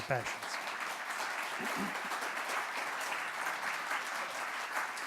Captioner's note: audience applauding